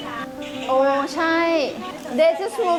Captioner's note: speaking thai